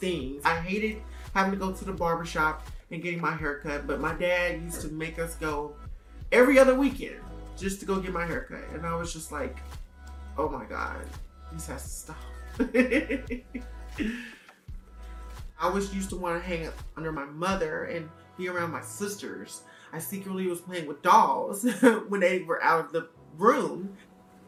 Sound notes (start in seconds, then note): 12.6 laughing